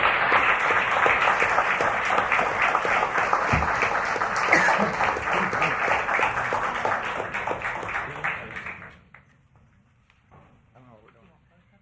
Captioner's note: applause